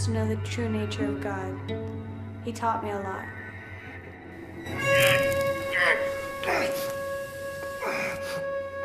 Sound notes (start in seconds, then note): 4.4 sizzling